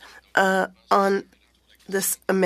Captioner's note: speaking French